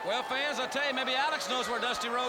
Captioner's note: crowd chatter